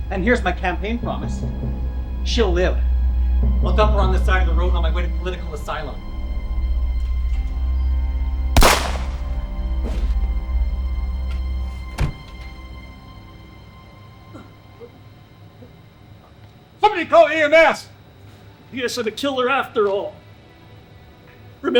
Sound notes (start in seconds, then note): 6.7 suspenseful music; 8.6 gun bangs; 11.7 body thuds